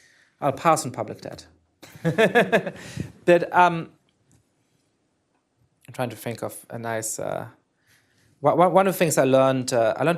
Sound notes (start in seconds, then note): 1.8 laughter